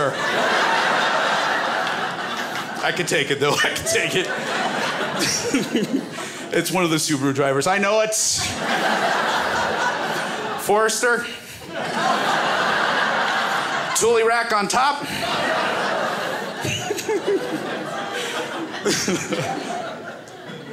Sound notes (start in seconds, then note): 0.0 crowd laughs; 8.4 crowd laughs; 11.6 crowd laughs; 15.1 laughs